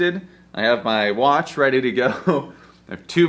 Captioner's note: chuckles